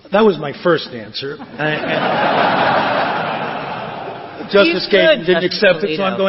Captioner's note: laughter